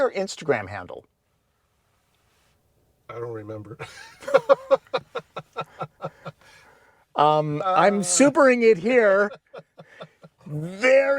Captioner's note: laughter